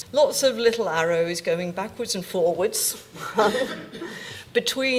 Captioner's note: laughs